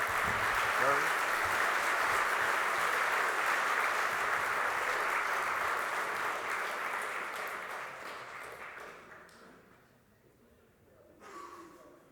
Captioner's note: applause